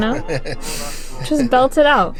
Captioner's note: laughter